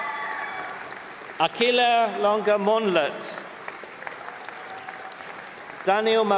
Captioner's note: applause